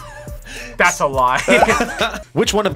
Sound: React laughs; laughs

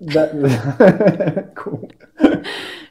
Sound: both laugh

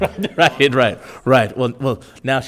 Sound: laughing

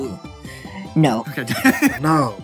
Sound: starts laughing

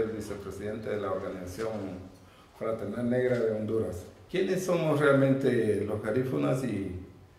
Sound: Garifuna speaks in foreign language

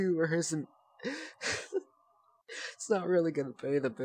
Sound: laughing; more laughs

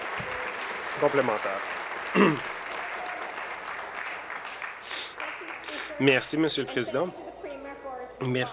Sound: applause

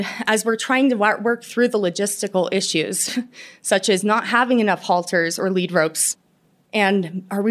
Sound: laughter

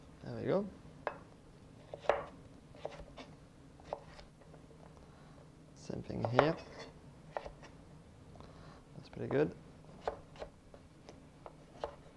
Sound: cutting sounds

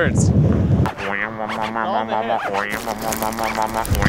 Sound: beatboxing

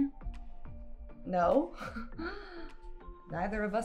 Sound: laughs nervously

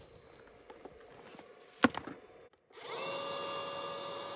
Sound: electric pump sound

